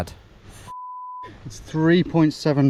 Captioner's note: beep